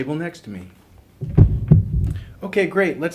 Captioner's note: thudding